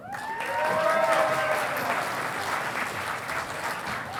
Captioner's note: audience applauding